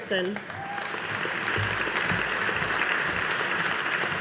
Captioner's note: audience applauding